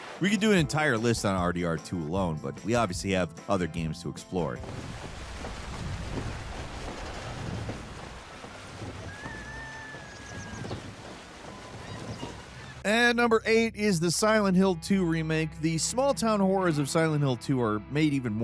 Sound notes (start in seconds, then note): 4.6 water babbling; 8.7 birds chirp; 8.9 rooster crows